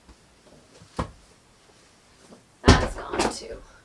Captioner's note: more thudding